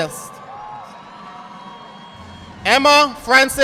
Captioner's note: audience clapping